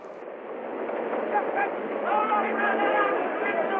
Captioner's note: shouting